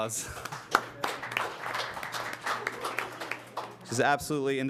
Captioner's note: applause